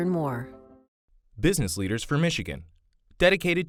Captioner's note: voiceover